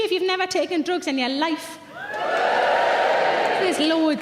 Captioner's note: audience cheers